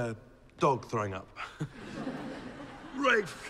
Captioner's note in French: rire